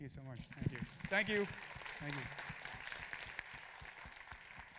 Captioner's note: applause